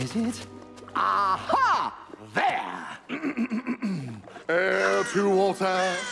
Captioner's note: clears throat